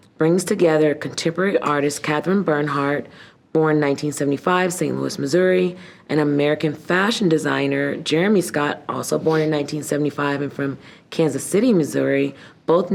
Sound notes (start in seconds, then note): none